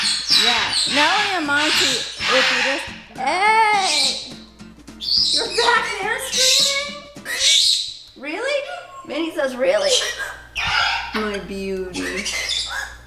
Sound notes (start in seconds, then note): 2.3 parrots scream loudly; 6.5 parrot screams loudly